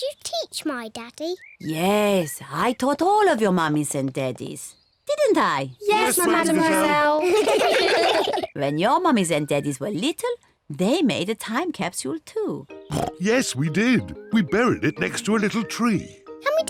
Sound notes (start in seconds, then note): 6.6 all laugh; 12.9 oinks